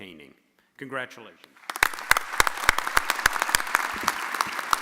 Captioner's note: audience applauding